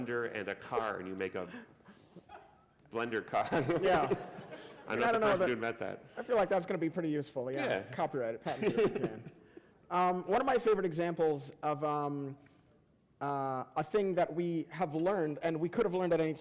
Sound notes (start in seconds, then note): 3.3 laughter